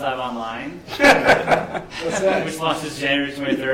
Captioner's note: laughs